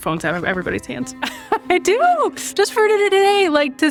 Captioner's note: laughs